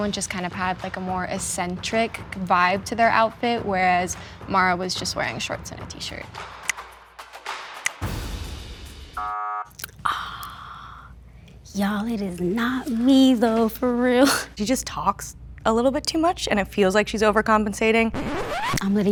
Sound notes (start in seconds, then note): 9.2 buzzer buzzing; 18.1 record scratching